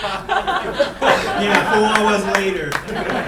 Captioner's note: clapping